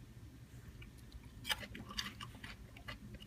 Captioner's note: crunching sound